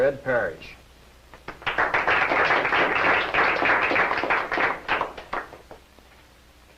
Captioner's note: disinterested applause